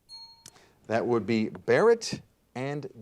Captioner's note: bell rings